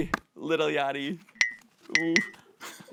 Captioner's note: loud blinking; giggles